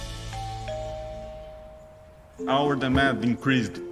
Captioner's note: doorbell rings